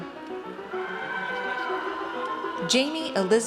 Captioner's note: audience cheers